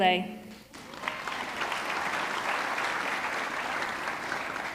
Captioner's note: audience clapping